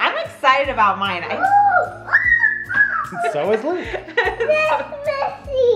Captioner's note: yelling excitedly